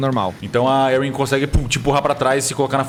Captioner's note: pow